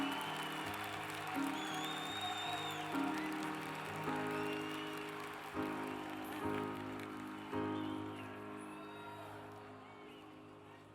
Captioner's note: cheers and applause